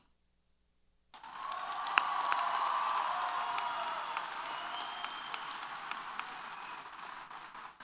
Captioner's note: applause & Cheers